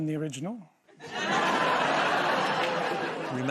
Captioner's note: laughter